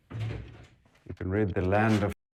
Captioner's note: footsteps thumping; door clicks